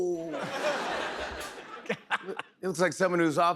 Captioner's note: laughter